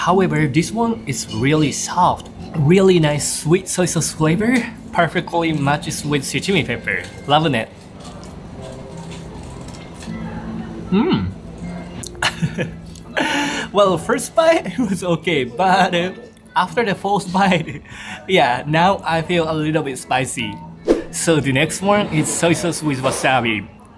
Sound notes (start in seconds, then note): 12.1 chuckles